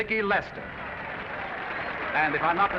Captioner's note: audience applauding